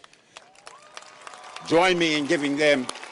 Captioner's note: audience cheers and applauds